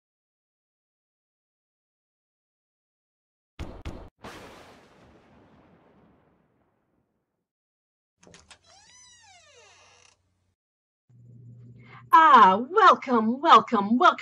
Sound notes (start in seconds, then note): 4.2 thunder; 8.2 door creaks open